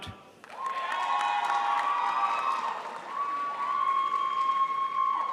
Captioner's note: crowd applauds